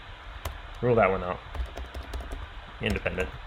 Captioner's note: keyboard clicking